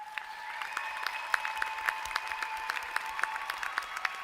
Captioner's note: applause